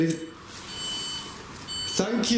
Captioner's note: device beeps